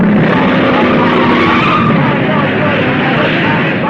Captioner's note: tires squealing